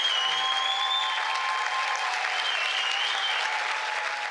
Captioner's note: cheers